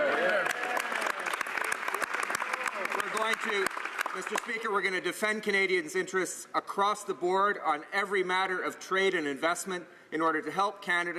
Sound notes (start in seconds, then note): 2.9 some Applause